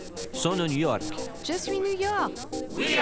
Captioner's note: French